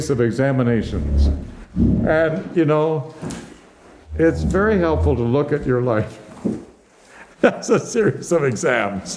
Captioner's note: laughs